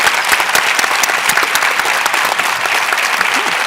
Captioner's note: applause